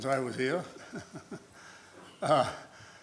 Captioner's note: laughs